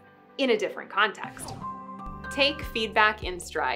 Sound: upbeat music continues; air whooshing

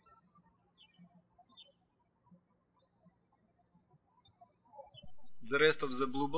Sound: birds chirping

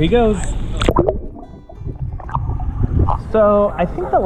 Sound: muffled underwater bubbling

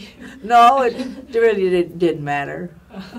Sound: laughs

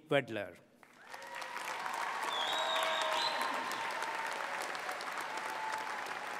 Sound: applause

